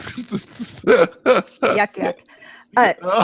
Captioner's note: laughs